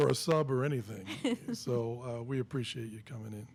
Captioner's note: laughing